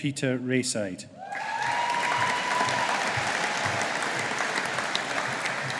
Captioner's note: audience applauding